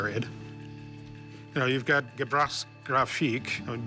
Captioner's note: speaking foreign language